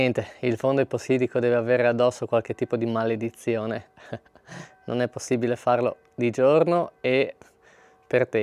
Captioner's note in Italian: risate